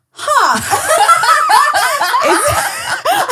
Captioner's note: laughing